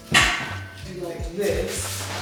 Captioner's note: metal clanking